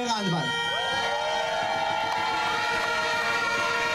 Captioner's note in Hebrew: קריאות הקהל